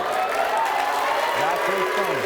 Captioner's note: audience clapping and cheering